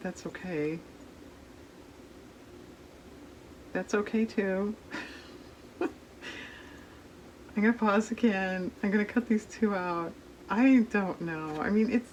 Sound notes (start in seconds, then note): 4.9 laughs